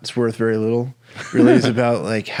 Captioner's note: laughing